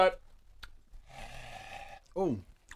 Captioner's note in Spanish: exhala